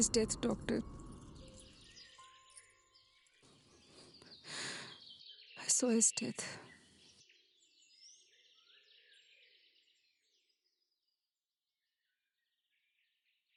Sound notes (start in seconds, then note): none